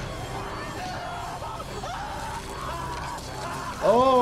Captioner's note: dramatic music; man screaming